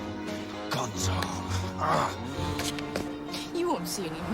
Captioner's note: growls